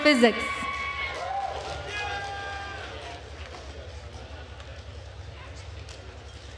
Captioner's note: attendees cheering and applauding